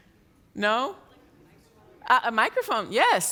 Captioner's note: murmuring